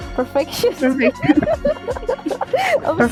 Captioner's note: giggles